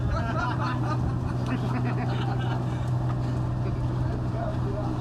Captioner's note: laughter